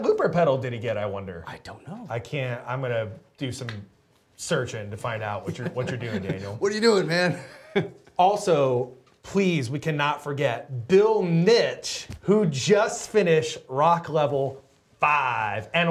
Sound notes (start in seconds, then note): 5.4 laughs